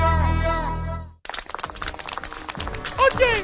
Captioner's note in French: bruits de pas; voix cruche